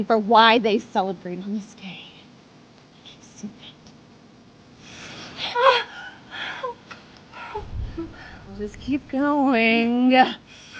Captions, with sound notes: for why they celebrate on this day. Don't you see that? (Christa gasping) We'll just keep going.